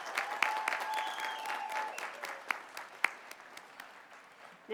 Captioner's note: applause